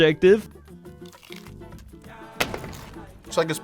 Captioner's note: salad crunches; explosion sound effect